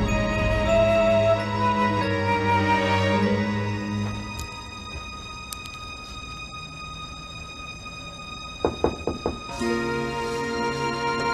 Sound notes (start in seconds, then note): 8.6 door knocks